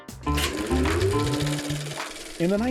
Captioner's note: projector whirring